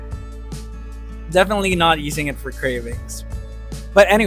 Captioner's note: sarcastic